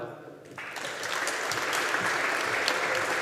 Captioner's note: audience applauding